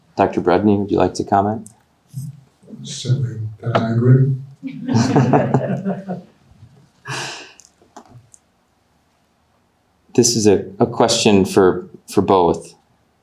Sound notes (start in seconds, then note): 4.6 audience laughing